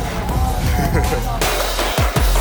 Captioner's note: chuckles; upbeat music